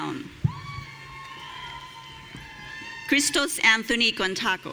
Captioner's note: audience cheering